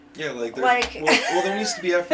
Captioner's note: exasperated laugh